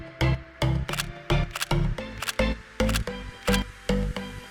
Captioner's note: camera shattering